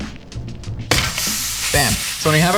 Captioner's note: slaps meat